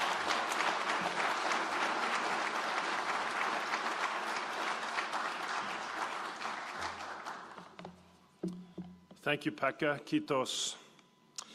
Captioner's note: applause